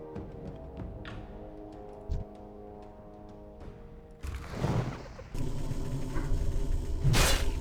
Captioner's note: gun fires